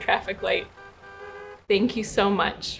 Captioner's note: cars honking